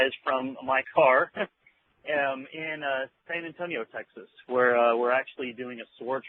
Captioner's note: laughs